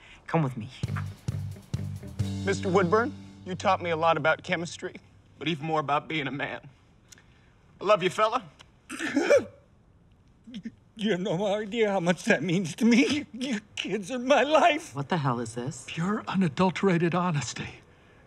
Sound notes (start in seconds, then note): 2.4 voice breaking; 8.9 sobs; 10.6 crying